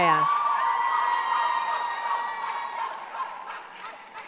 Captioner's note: cheering